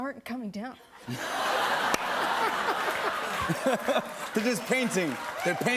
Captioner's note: laughter